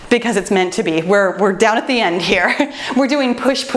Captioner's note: laughs